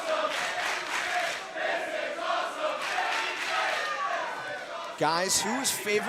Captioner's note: crowd cheering